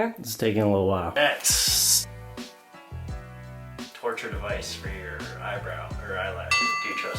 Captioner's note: ding